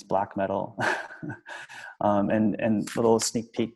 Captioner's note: laughs